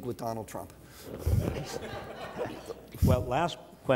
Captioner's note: audience laughs